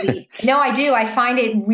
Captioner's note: laughing